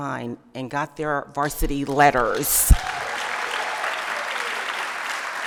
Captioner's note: applause